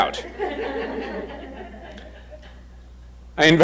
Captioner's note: crowd chuckles